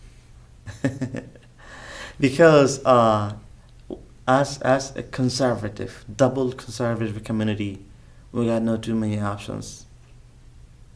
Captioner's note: laughs